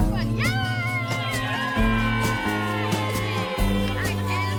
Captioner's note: audience cheering